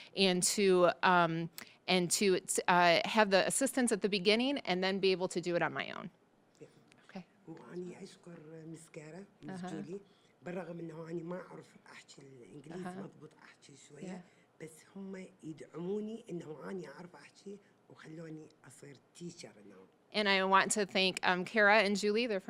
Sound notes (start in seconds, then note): 7.7 speaking Arabic